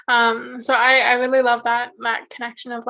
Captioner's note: none